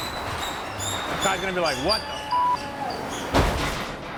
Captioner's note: door squeaking; beep